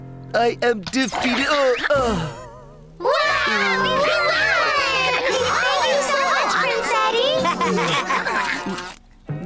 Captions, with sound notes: I am defeated-- uh! - [cheering] - Wow! We won! Thank you so much, Prince Eddy!